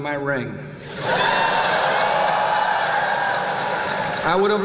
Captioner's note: whoop!; laughter